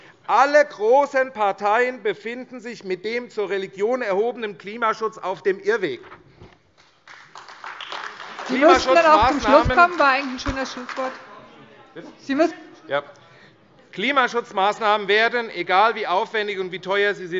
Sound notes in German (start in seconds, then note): 6.8 Beifall AfD